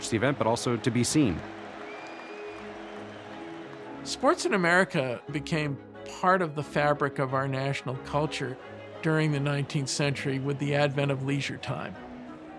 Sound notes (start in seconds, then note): 1.9 audience cheering and applauding